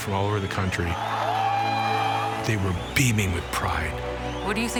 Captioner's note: cheering